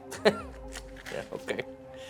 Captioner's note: laughs